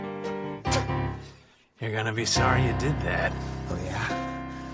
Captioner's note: spits